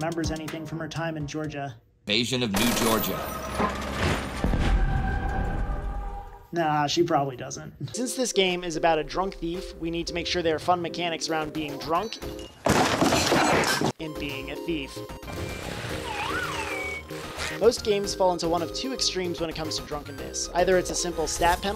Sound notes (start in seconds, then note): 2.5 sounds Of War